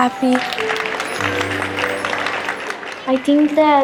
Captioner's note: applause